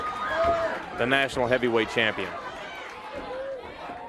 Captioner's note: crowd chatter